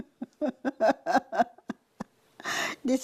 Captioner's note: laughter